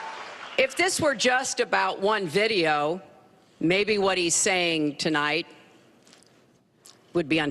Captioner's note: cheers and applause